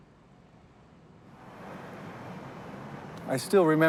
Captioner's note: bus whirring